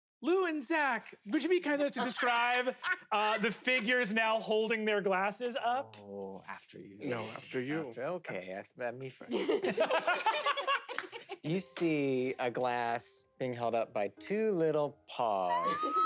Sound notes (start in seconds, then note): 9.3 laugh